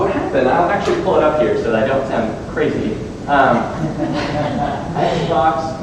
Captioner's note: audience chuckles